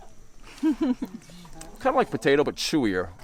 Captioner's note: chuckles